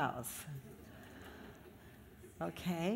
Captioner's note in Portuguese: risos da plateia